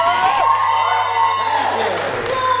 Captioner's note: audience cheers